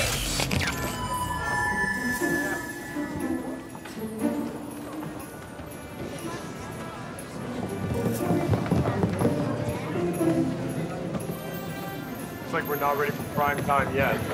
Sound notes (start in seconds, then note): 2.9 crowd tittering